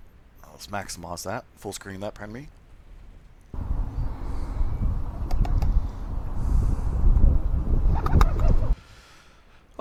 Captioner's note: natural ambiance pigeons flapping